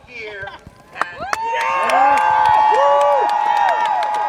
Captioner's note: crowd cheers